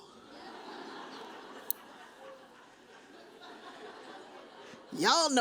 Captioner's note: audience chuckles